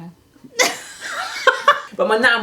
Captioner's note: both laughing